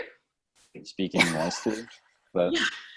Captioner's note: laughs